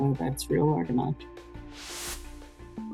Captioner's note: whooshing